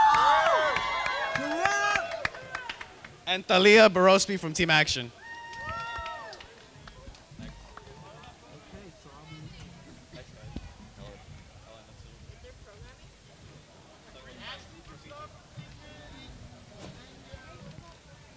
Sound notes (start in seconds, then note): 0.0 crowd cheering; 5.1 cheering